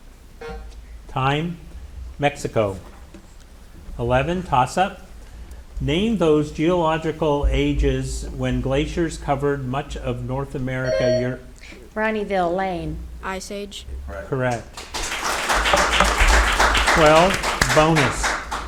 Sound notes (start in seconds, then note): 0.4 timer buzzing; 10.8 buzzer ringing; 14.5 audience applauding